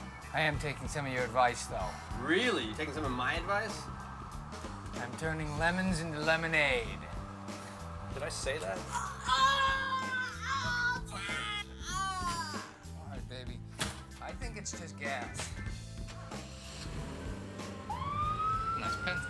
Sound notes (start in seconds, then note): 8.6 screams